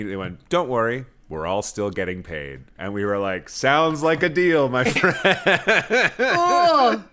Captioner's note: laughter